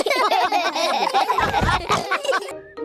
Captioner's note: all laugh